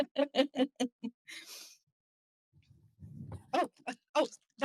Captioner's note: laughter